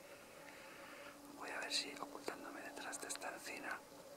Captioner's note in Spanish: Susurrando